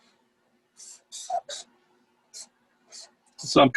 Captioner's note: pencil squeaking